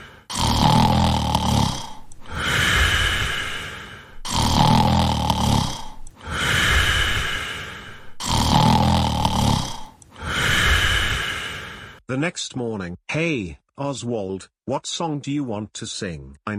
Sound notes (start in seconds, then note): 0.3 snoring; 4.2 snoring; 8.2 snoring